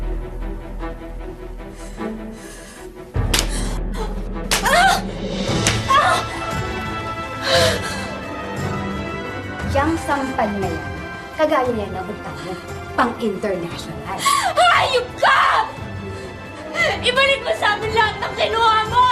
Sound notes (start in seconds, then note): 4.2 Claudia yelping; 7.2 gasps